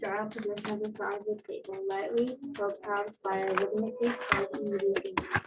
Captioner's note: tapping